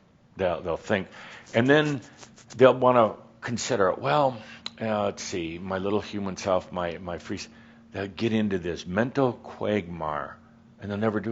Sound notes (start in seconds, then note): none